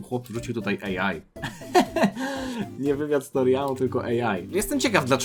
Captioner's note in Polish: śmiech